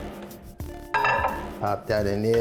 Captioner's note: glass clatters